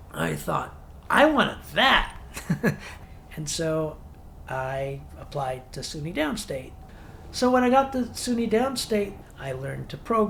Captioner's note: laughs